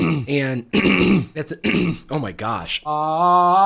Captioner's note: clearing throat